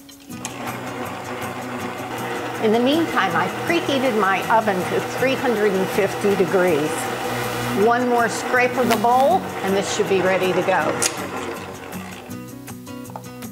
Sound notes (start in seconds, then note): 0.6 machine rumbling; 10.9 upbeat music